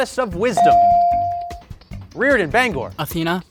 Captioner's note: bell dings